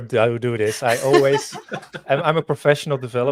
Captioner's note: laugh